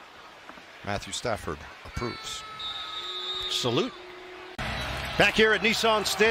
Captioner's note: whistle blowing